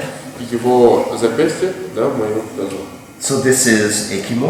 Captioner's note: speaking in a foreign language